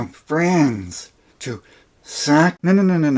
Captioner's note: peter lorre voice